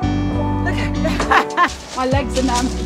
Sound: laughing

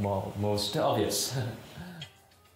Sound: laughs

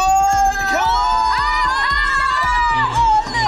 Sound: all screaming

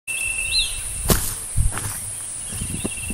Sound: footsteps

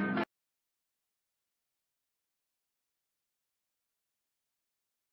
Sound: silence

